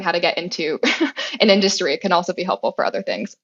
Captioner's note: laugh